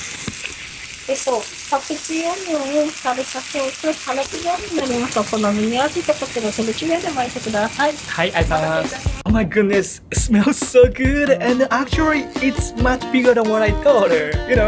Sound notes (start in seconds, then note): 1.3 staff speaks in japanese